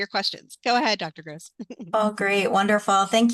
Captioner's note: laughs